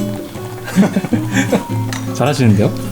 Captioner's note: laughs